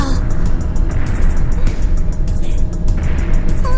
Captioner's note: bated breath